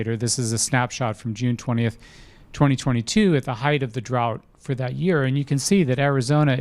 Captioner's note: none